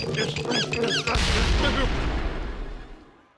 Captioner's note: explosion booms